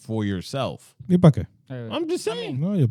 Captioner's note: speaking In Foreign Language